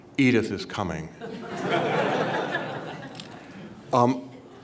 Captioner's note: laughter